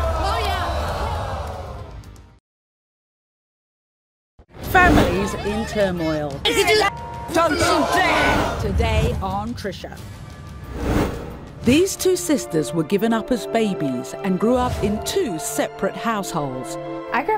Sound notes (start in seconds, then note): 6.6 women shouting at one another; 8.1 audience gasps